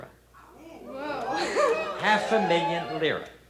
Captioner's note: chuckling